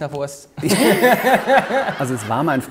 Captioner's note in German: Gelächter